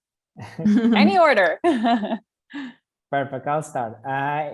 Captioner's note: laugh